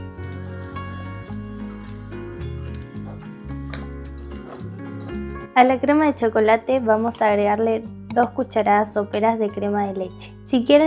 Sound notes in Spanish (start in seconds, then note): 4.3 resoplido